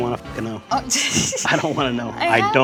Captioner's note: laughing